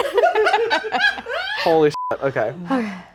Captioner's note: everyone laughs; beep